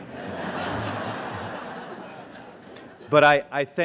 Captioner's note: laughter